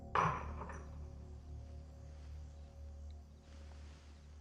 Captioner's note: vase clatters